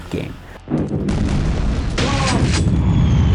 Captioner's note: explosions